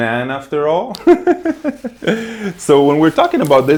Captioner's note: giggles